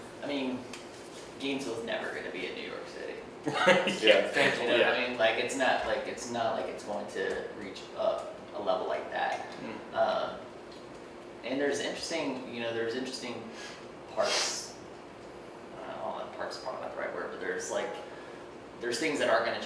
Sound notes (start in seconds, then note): 3.4 laughs